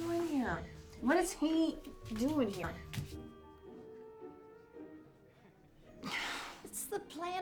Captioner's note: sighs